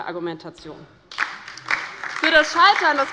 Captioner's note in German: Beifall bei der LINKEN und der SPD